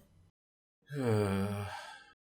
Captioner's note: beleaguered sigh